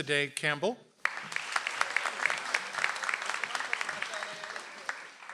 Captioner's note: audience applauds